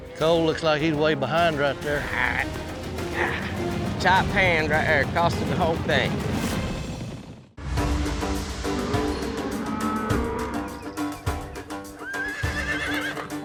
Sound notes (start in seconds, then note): 8.8 cows mooing; 11.9 horses whinnying